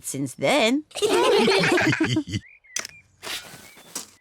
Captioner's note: all laugh